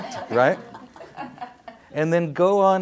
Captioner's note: audience laughs